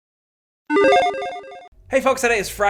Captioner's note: logo beeping